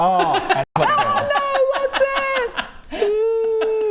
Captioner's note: comic book villain laugh